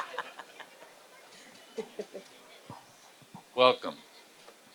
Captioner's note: laughter